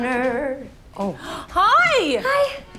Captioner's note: gasps